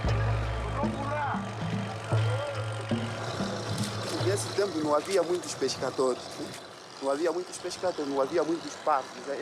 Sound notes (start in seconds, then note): 4.1 Portuguese spoken audio